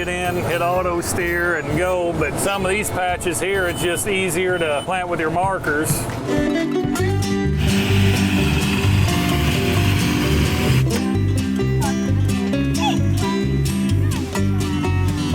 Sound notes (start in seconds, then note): 6.1 banjo music; 10.6 chattering